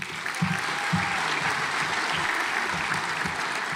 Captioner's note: audience applauds